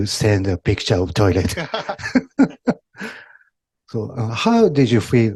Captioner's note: laughter